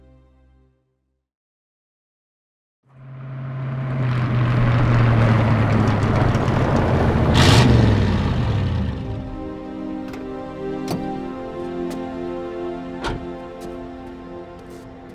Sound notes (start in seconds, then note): 3.3 engines rumbling; 8.3 solemn music